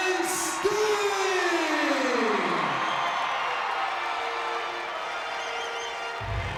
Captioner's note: audience applauds and cheers